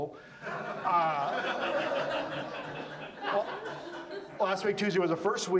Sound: audience laughs

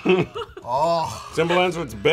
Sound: both laugh

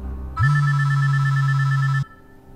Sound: cell Phone Rings

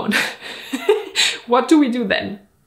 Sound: laughing

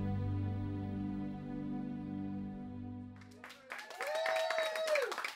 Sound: spontaneous applause

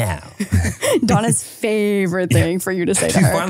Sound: chuckles

